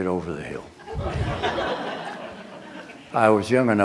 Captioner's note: laughter